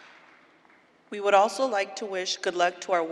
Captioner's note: applause